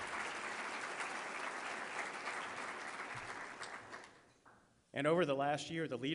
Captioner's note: applause